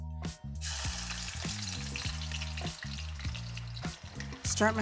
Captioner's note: peppers and garlic sizzling